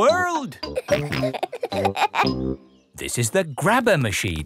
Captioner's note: peppa and george laughing